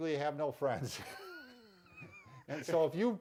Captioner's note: both laughs